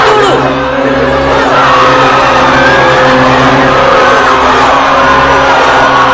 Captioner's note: multiple voices in dissent